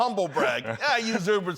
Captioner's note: laughter